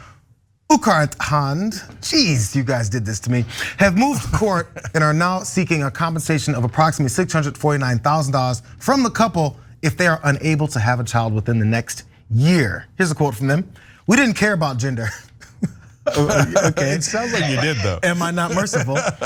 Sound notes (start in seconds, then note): 15.1 laugh